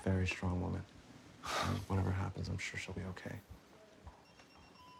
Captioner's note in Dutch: zucht